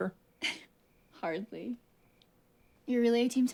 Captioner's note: giggles